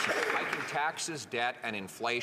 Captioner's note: some Applause